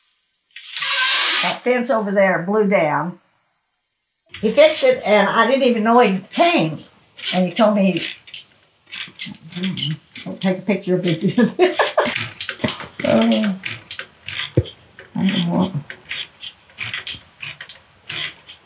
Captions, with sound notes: [blinds squeak] That fence over there, it blew down. He fixed it, and I didn't even know he came. And he told me-- [blinds squeaking] Hmm. Don't take a picture of this. [laughs] Oh. [blinds squeaking] What in the world? [blinds squeaking]